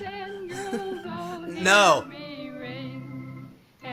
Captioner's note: giggle